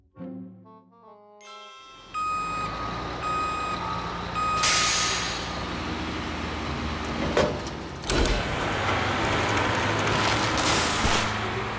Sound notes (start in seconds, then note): 2.0 truck beeping